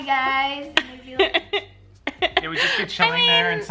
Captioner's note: laughing